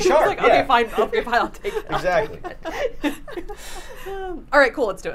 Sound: laughing

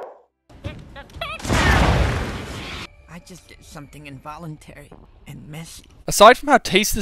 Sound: geyser Explodes

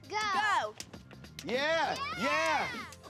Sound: girls cheer

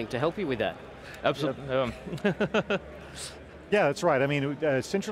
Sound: chuckles

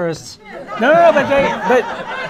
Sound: laughter

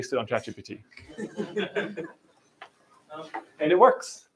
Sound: laughing

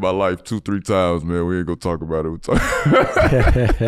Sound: laughing

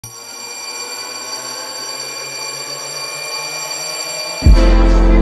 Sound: violent telephone ringing

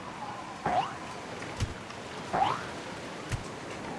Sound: jump sound

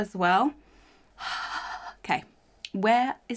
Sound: sighs

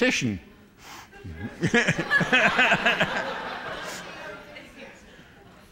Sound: laughter

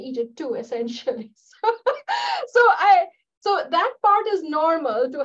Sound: laughter

